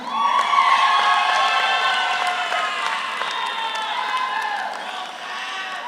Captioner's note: audience applauds; audience cheers